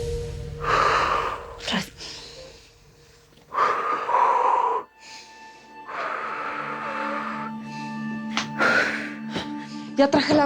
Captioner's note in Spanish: Resoplidos